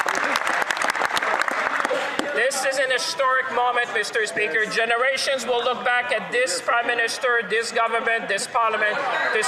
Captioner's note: some Applause